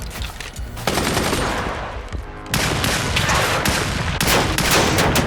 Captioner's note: gunshots blasting